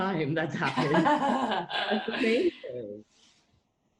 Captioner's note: laughing